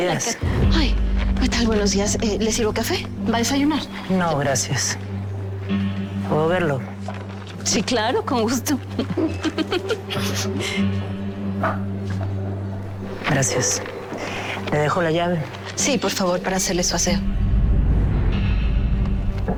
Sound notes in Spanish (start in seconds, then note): 8.9 Risas